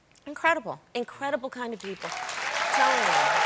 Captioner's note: applause